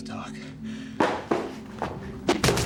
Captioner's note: bat thudding; milk box clatters